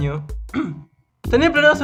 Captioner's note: cough